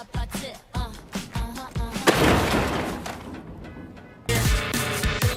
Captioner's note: upbeat music; gunshot; singing in foreign language